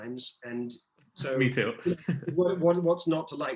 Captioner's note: chuckles